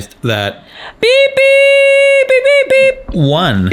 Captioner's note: beeps